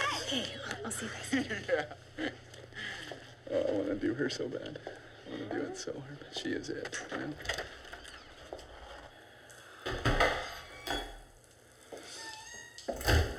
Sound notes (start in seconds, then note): 11.9 door creaks